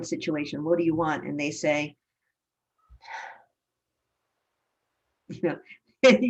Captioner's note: sigh